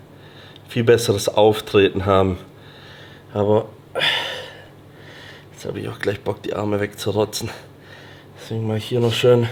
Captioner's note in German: japst; seufzt